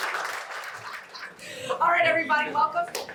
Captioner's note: laughs